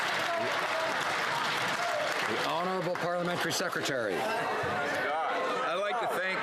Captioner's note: some Applause